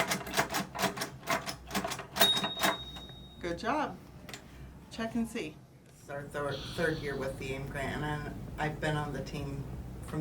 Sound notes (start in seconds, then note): 2.3 device dings